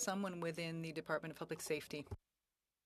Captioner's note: speaking French